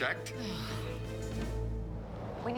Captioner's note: sighs